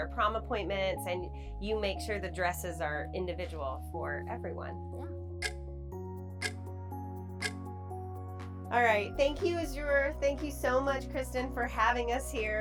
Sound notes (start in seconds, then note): 6.4 clock ticking; 7.5 gentle music